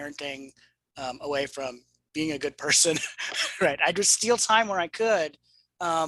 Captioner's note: chuckles